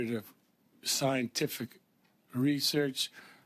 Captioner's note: speaking French